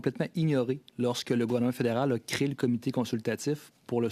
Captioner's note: speaking French